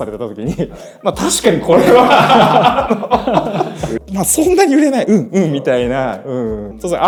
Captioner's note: laughs